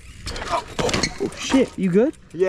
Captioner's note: crash